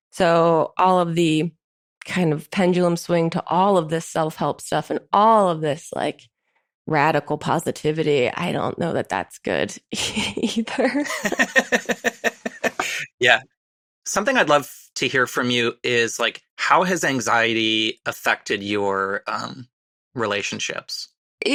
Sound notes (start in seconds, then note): 11.0 chuckles; 11.0 laughs